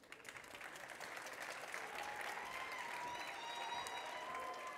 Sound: audience clapping

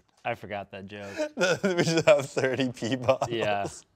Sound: laughs

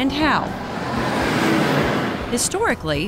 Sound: truck passing

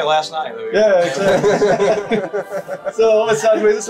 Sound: everybody laughing

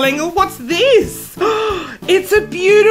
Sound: gasps

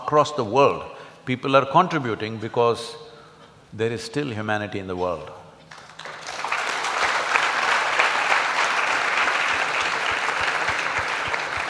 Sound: applause

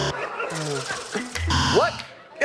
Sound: buzzer

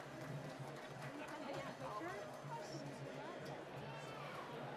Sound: applause

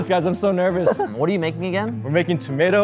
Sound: laughing

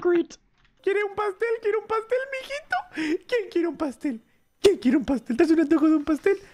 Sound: in Spanish

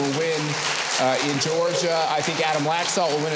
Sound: audience applauding

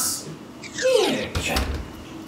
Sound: closes door

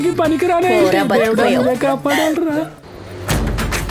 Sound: laughs

